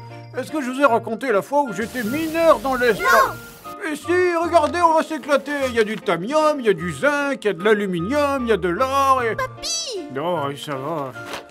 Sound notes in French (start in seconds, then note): 2.9 hors champ, en chœur